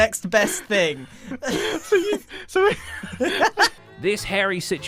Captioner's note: laughter